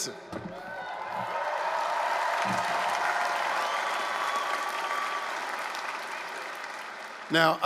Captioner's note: applause, cheering